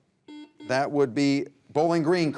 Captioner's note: buzzer buzzes